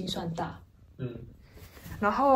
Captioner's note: nonverbal grunt as interjection